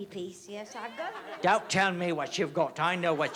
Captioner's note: english accent